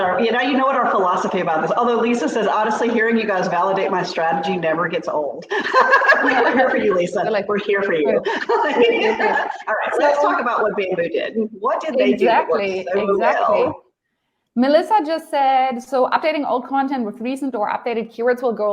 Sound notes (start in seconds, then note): 5.5 laughs